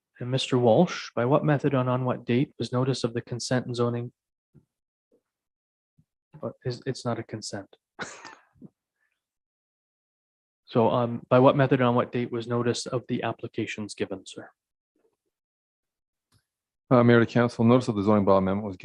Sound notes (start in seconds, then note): 8.0 chuckles